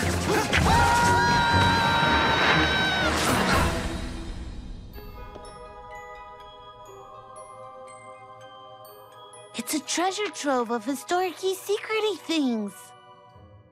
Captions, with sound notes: ( both scream ) IT'S A TREASURE TROVE OF HISTORIC-Y, SECRET-Y THINGS.